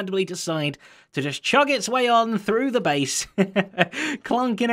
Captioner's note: chuckles